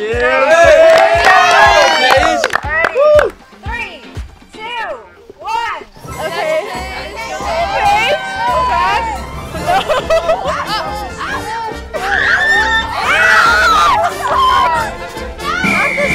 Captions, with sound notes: (everyone cheering) - All right. 3, 2, 1. - Okay - Go Paige (everyone cheering) (girls screaming)